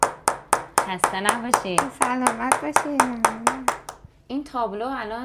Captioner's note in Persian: صدای تشویق